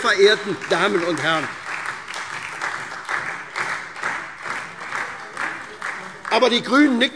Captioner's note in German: Beifall SPD und vereinzelt Freie Demokraten